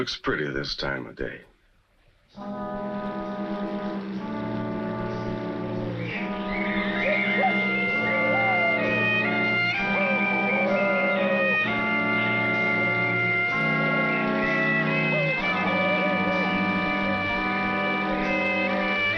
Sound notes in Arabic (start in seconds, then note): 1.2 صوت محرك القارب يهدر; 1.2 موسيقى مضطربة